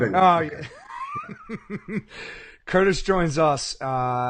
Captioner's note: laughing